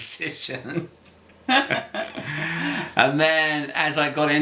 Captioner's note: both laughs